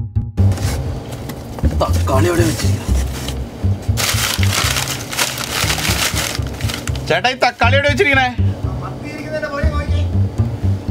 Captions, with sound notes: Where are the tomatoes? [rustling] Brother, where are the tomatoes? Check behind the sardines.